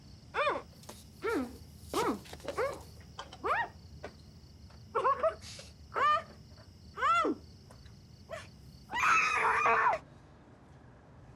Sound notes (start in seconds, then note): 0.2 whining; 2.6 screaming